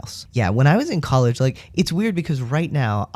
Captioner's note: none